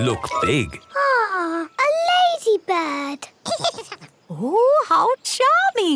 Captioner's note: giggles